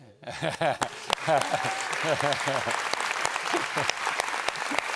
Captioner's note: audience applauds